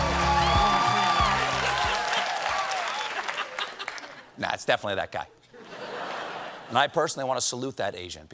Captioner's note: cheers and applause